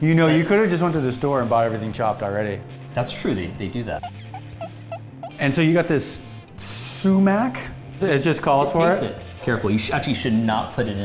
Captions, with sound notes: You know you could've just went to the store and buy everything chopped already? - That's true, they do that. (squeaking) - And so you got this sumac. It just called for it? - Just taste it. Careful, actually, you should not put it